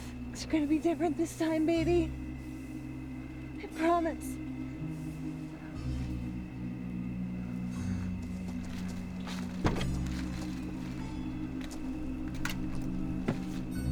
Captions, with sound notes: - It's gonna be different this time, baby. I promise. (eerie music) (door clicks)